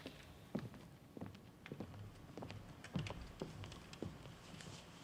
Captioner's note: footsteps